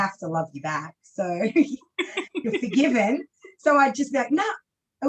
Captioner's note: laughs